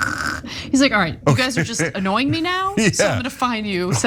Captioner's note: laugh